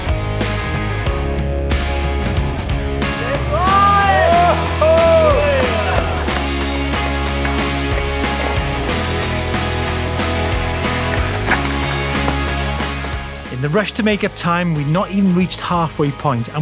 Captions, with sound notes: (shouting) (gravel crunching) In the rush to make up time, we'd not even reached halfway point